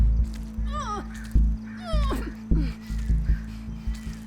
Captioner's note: Evelyn groaning